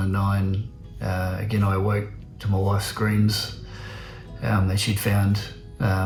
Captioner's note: exhales deeply